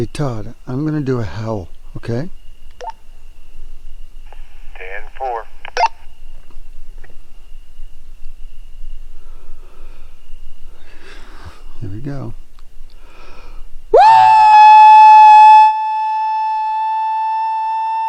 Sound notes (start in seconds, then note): 2.7 radio beeping